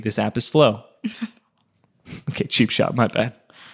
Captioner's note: laughs